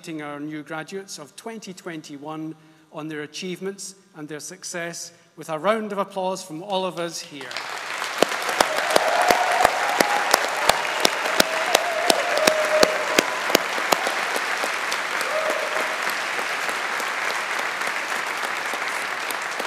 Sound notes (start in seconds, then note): 8.2 audience applauding; 8.2 audience cheering